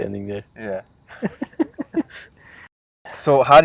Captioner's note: laughing